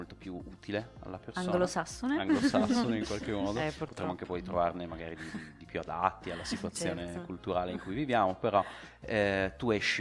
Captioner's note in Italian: risate